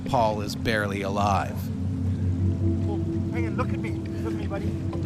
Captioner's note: voiceover